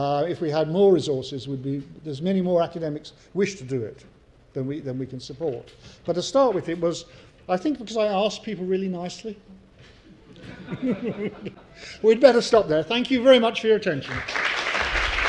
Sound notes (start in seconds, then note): 10.2 laugh; 14.0 applause